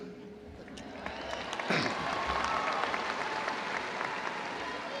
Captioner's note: audience applauding